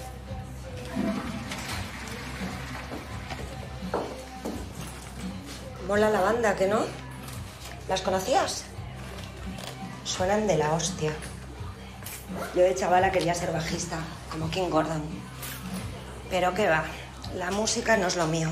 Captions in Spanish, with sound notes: (Sonido agua cisterna) Mola la banda, ¿que no? ¿Las conocías? Suenan de la hostia. Yo de chavala quería ser bajista, como King Gordon, pero que va, la música no es lo mío.